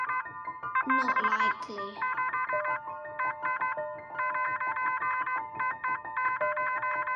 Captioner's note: morse code sounds